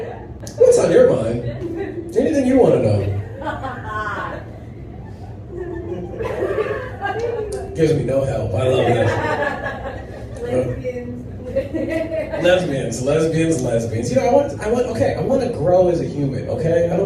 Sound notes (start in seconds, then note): 4.6 sparse laughter; 11.3 giggles